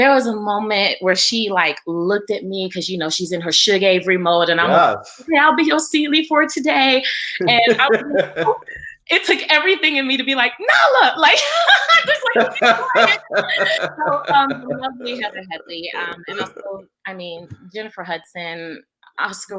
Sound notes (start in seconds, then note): 11.2 laughs